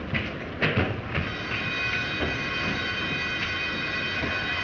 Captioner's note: fire alarm bell ringing